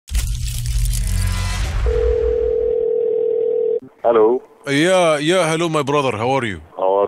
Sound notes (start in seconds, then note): 1.9 phone ringing